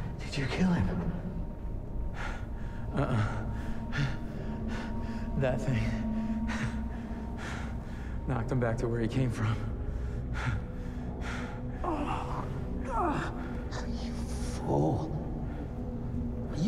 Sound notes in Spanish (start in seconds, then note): 4.4 Respirando profundamente; 9.6 Respirando profundamente; 12.8 Gruñidos